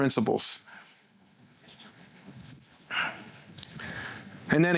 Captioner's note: sighing